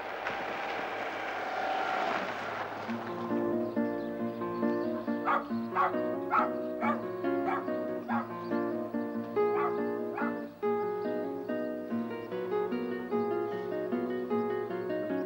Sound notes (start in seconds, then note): 5.7 dog barking